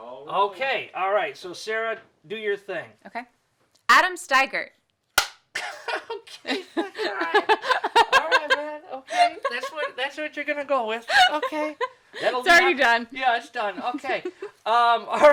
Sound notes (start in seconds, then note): 5.2 clapboard snapping; 5.5 laughing